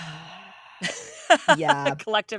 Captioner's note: sighs